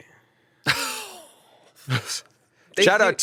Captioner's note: scoffs